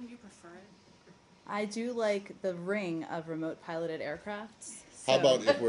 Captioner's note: laughter